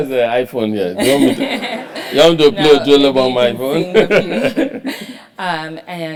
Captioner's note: laugh